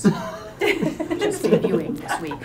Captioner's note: laughs